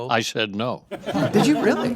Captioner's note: audience laugh